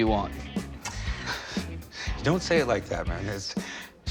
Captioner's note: chuckles